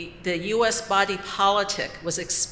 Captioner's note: none